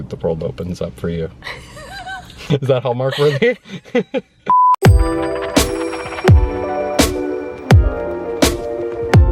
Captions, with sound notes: the world opens up for you. (laughs) - Is that Hallmark worthy? (laughs) (instrumental, bopping chill music)